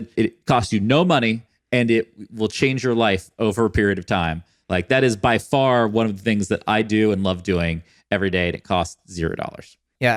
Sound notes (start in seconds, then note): none